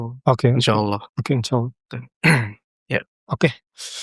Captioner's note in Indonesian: berdehem